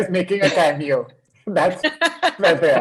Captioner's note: chuckles